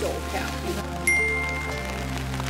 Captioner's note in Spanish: Ding